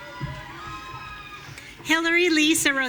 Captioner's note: audience cheering